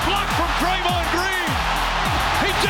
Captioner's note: crowd cheering